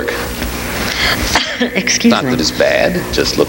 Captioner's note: sneezes